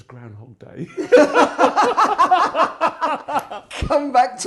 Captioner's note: laughing